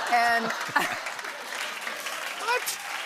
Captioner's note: laughter; applause